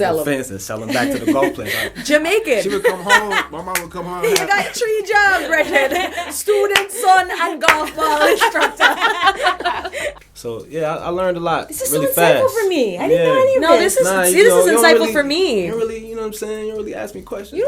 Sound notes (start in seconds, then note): 7.8 laughter